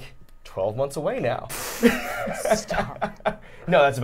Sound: laughing

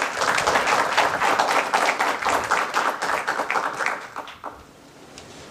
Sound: applause

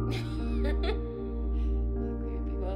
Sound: laughs

